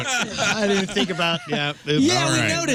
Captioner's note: laughing